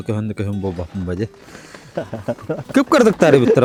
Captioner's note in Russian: смех